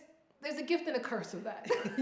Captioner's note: laughs